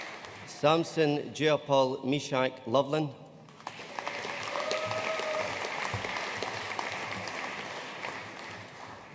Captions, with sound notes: Samson Jeyapaul Meshak Lovelin. (AUDIENCE CHEERING AND APPLAUDING)